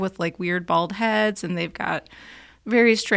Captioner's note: none